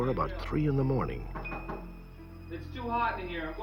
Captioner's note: knocking